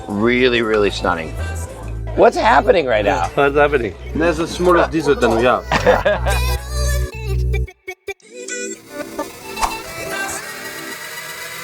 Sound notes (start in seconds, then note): 6.0 laughing